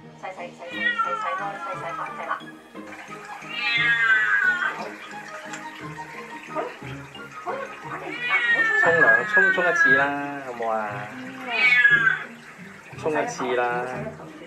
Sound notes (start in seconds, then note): 2.1 water splashing; 3.4 cat meowing